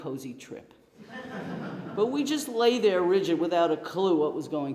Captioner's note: laughter